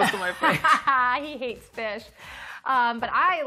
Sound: laughs

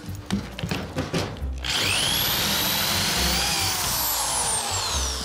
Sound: drill whirring

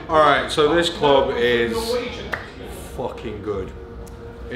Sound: none

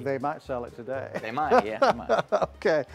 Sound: laughs

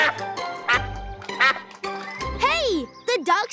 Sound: quacking

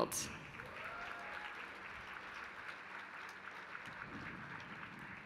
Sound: applause

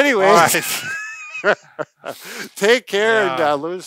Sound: laughing

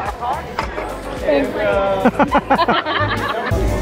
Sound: laughter

